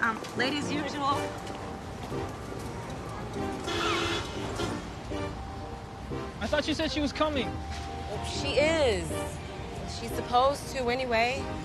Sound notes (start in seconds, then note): 3.6 truck horn honking